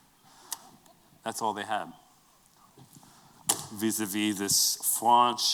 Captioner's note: french accent